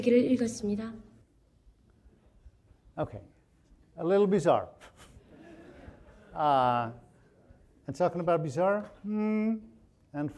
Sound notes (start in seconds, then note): 4.8 chuckles; 5.0 audience laughing